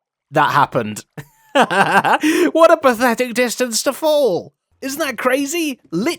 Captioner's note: laughs